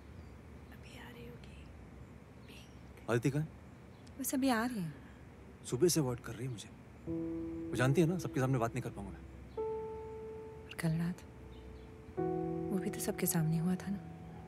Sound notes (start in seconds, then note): 0.6 Whispering